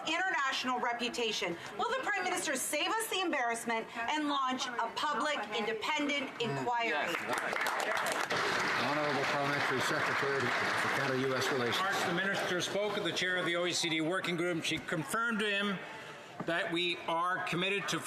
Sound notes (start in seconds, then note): 9.9 some Applause